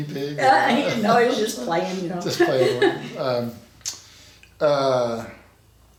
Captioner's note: laughs